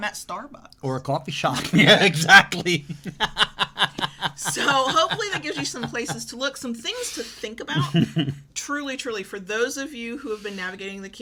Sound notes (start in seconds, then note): 1.5 laughs